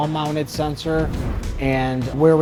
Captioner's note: note swooshes